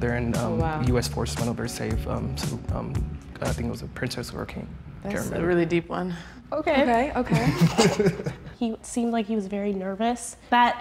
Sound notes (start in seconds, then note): 7.2 men laugh